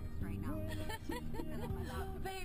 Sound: laughter

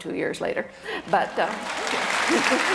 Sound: audience applause

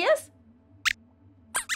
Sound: squeaks squeaks

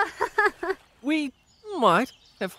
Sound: nervous laugh

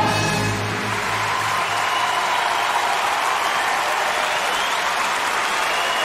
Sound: applause

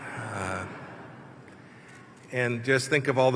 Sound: laughter

